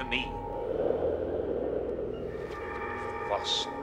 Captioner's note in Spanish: viento silbando